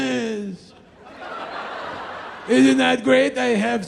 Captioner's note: crowd laughs